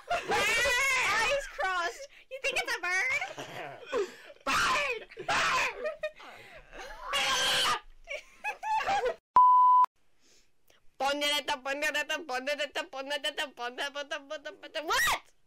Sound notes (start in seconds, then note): 8.0 laughter; 11.0 weird Singing